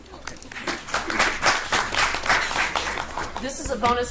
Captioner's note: audience applauds